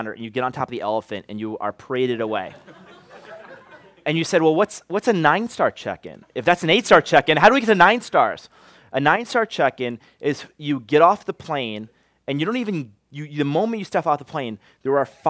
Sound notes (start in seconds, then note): 2.4 laughter